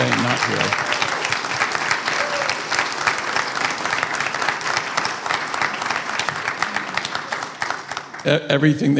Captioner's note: applause